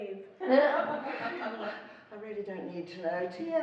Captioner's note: laughing